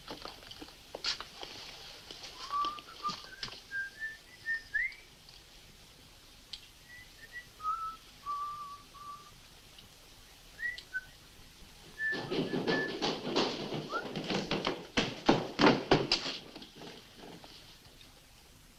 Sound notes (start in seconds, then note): 2.4 whistling; 11.8 hurried footsteps